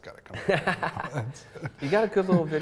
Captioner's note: laughs